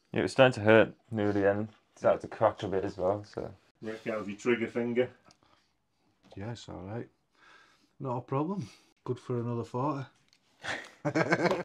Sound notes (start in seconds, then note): 10.6 laughs